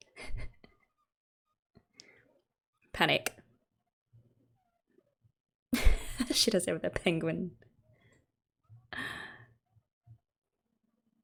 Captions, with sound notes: Panic. [laughs] Shirase with her penguin.